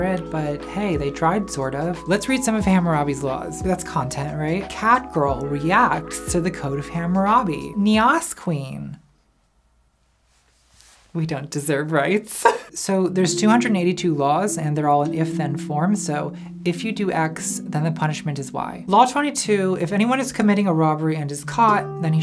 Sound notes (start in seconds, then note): 12.3 laughs